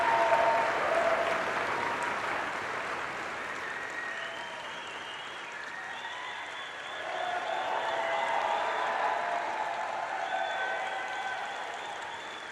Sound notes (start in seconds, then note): 3.9 applause